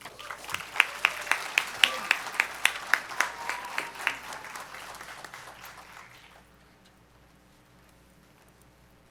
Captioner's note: applause